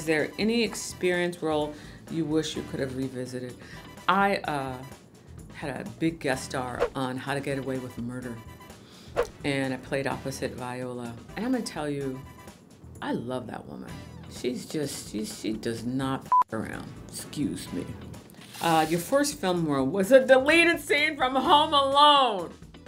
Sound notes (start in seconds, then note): 16.3 beep